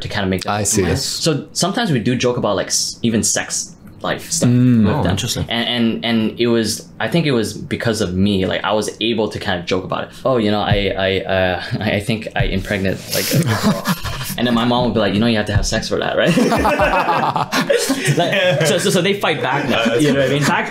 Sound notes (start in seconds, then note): 13.1 laughing; 16.2 all laughing